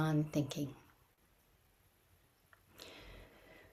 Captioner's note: pause